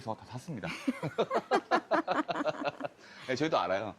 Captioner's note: เสียงหัวเราะพร้อมกัน